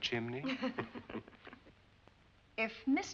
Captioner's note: chuckling